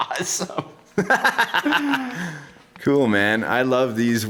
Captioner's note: laughing